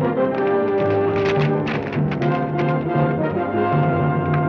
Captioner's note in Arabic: صوت حوافر